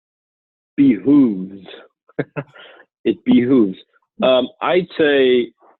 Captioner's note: laughing